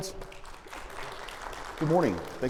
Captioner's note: audience applauds